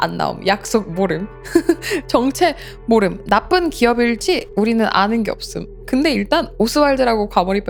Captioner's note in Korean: 웃음